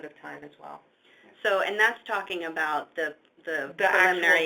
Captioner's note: voiceover